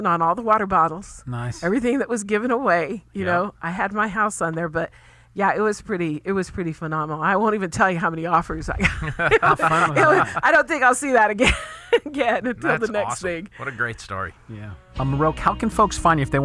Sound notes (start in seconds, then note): 8.8 laughs; 12.2 laughs